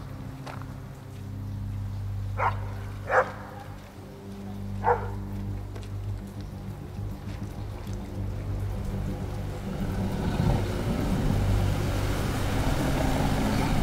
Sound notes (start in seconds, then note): 3.0 dog barks; 8.8 music builds gradually, distorts